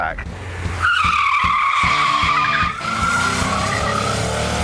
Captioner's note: tyres squeal